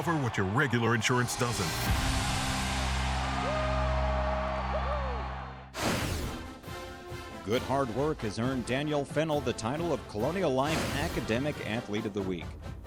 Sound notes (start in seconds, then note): 7.6 voiceover